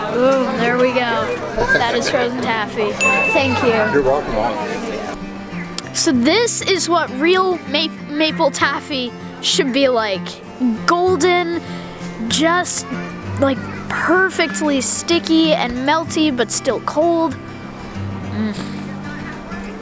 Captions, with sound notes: - Oooh, there we go, that is frozen taffy. (ding) Thank you. - You're welcome, Owen. - So this is what real maple taffy should be like. Golden, just like perfectly sticky and melty but still cold. Um, so good.